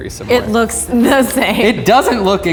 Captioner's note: laughing